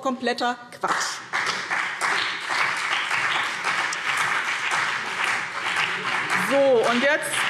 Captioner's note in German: Beifall BÜNDNIS 90/DIE GRÜNEN und CDU